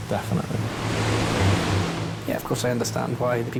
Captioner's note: waves crashing